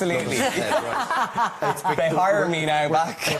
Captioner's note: laughing